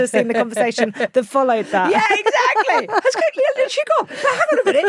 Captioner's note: laughs